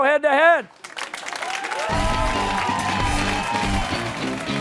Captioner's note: cheers and applause